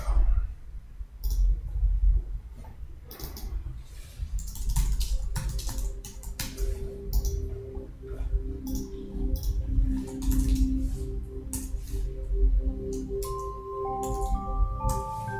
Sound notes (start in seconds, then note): 3.6 mouse clicking; 10.2 beautiful, soothing chime and bell music